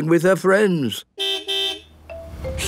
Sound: car beep

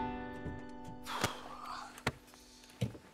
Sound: car door opens; exhales

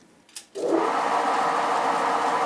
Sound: whirring

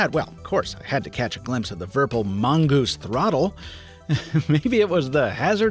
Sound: laughs

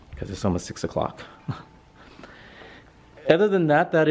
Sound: laughs

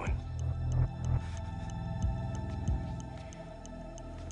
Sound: breathing shakily

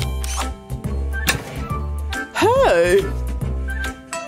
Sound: sighs

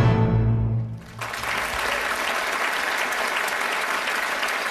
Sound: audience applauding

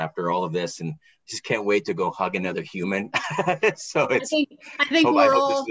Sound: laughing

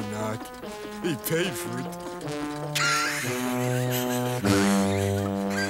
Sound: L.B. laughs

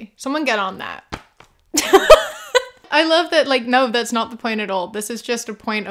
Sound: laughter

